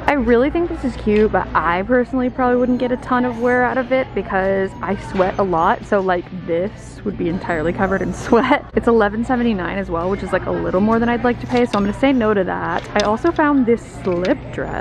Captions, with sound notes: I really think this is cute but I personally probably wouldn't get a ton of wear out of it because I sweat a lot so this would be entirely covered in sweat. (laughs) It's $11.79 as well, which is like a little more than I'd like to pay so I'm gonna say no to that. I also found this slip dress